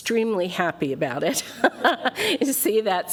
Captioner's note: laughs